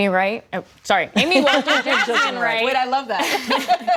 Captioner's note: laughter